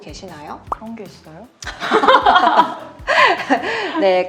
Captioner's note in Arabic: ضحك